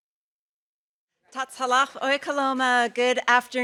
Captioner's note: speaking Nez Perce